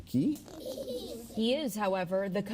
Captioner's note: children laughing